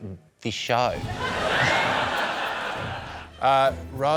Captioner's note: laughter